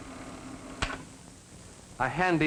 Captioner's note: flicks switch